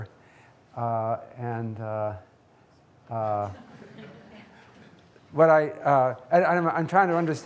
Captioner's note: audience laughing